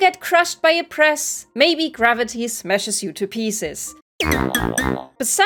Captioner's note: fail sound